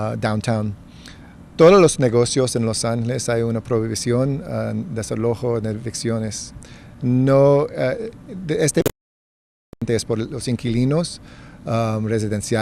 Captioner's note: speaking spanish